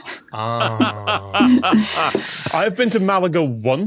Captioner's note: laughs heartily